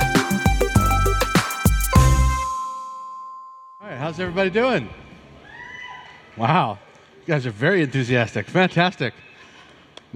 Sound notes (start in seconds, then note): 5.4 cheering